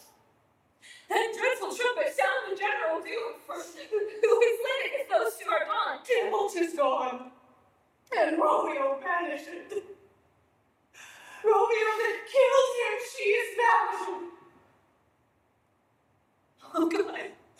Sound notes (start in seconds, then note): none